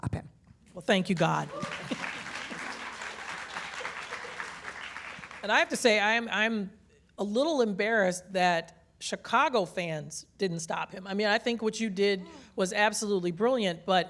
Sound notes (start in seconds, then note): 4.9 applause